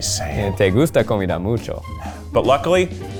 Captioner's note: speaking Spanish